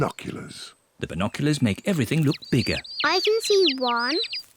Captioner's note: chirping